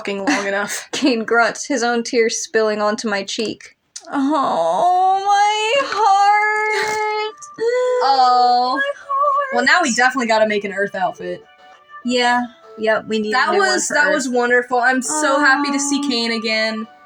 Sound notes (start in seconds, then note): 6.6 chuckle; 6.7 inhale